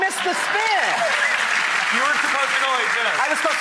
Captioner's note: audience applauds